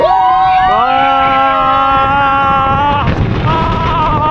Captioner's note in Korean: 와아아아아아아아아